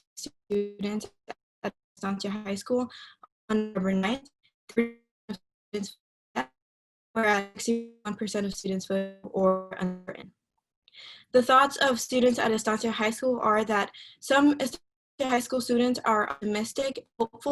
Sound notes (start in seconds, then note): 3.4 voice distorted; 8.7 voice distorted